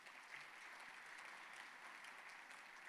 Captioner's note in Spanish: aplausos